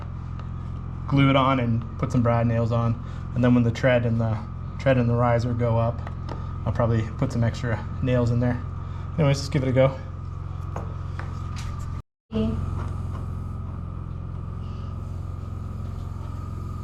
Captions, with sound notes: now is just get some glue and glue it on and put some brad nails on. And then when the tread and the riser go up, I'll probably put some extra nails in there. Anyways, just give it a go. (motor whirring)